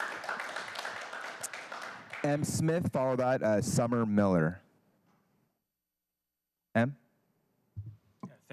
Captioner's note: applause